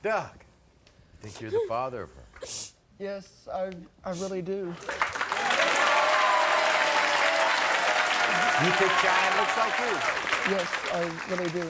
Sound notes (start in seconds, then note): 4.7 applauding